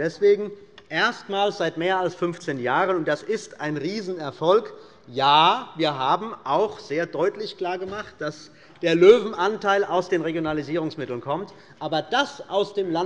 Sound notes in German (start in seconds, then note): none